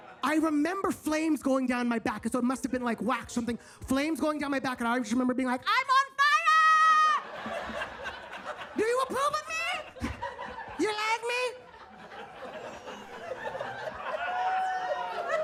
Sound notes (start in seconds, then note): 7.4 audience laughs; 10.1 audience laughs; 12.4 audience laughs